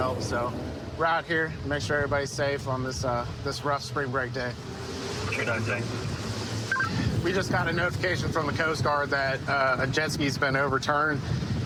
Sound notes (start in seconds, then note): 5.4 radio communication